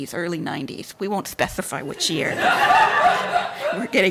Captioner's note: audience laughs